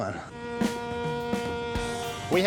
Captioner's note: boat horn sounding